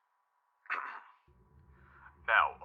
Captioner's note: clearing throat